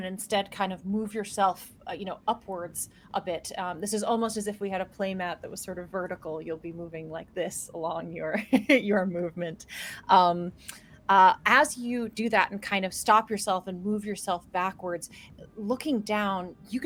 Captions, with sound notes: instead kind of move yourself, you know, upwards a bit. This is almost as if we had a play mat that was sort of vertical. You'll be moving like this along your (laughs) your movement. As you do that and kind of stop yourself and move yourself backwards, looking down,